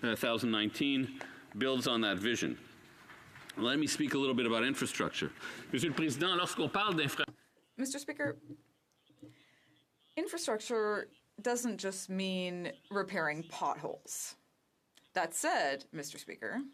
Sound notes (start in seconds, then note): 12.1 speaking French